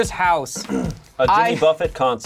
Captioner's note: clears throat